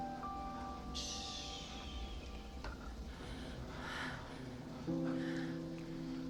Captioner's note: panting